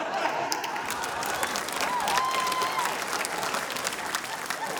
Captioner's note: laughter, cheering, applause